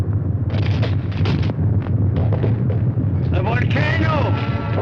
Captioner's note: rocks cracking; dramatic orchestral music